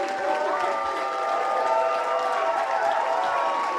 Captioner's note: applause